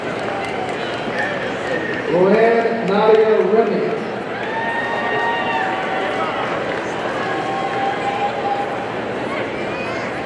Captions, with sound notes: (audience applauding) Rowann Nadia Remie, (audience cheering)